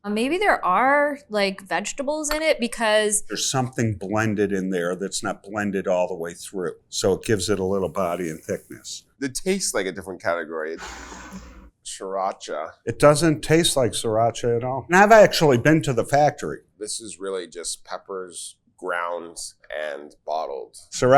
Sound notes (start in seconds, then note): 10.8 bottle scrapes